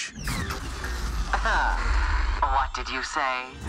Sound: electricity buzzes

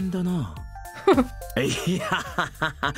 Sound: chuckles

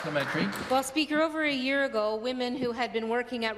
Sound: some Applause

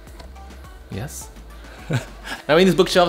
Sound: chuckling

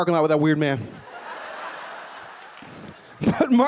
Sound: laughing

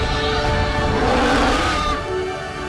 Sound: screeching; roars

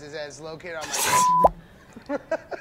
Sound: beep; laughing

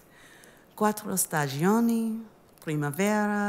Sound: speaking italian

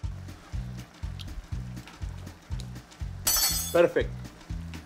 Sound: beans simmer

